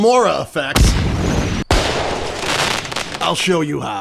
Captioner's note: explosive sounds